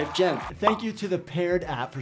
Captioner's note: crowd applauding